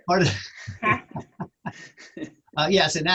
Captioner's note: laughter